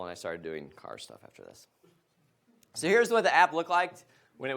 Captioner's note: none